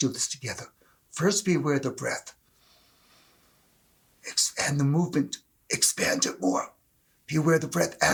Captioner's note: inhale